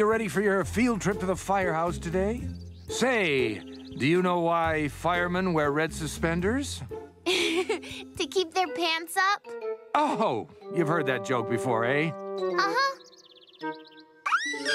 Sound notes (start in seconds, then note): 7.2 giggling